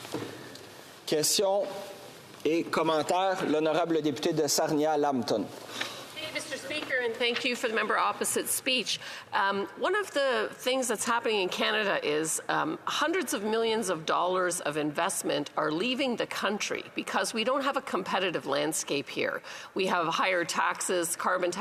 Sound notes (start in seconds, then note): 10.7 speaking French